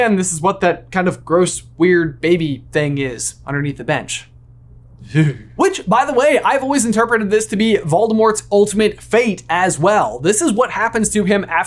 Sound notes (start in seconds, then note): 5.0 shudders